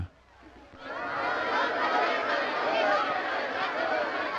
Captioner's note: crowd shouting